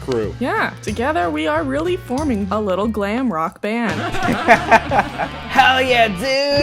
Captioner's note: laughter